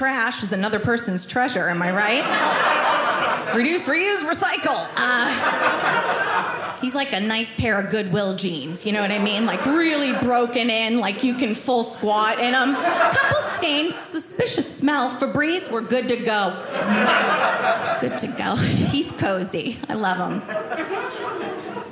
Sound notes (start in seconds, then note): 5.0 audience laughing; 16.2 audience laughing